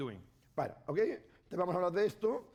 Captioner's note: speaking spanish